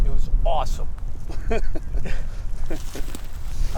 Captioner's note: laughing